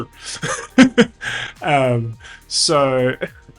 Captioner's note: laughs